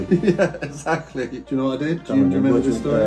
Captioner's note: laughing